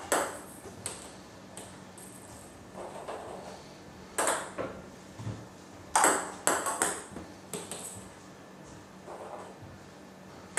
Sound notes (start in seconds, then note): 4.0 balls ping pong hitting continues